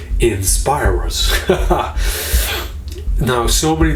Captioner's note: laughing